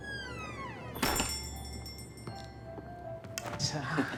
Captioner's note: gentle Christmas music; bell jingling; Alex laughing; gentle Christmas music